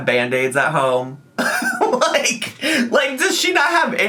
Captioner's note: laughing